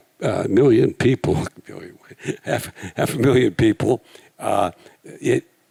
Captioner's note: chuckles